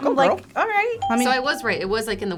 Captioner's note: ping